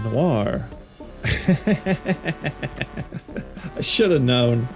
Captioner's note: laughs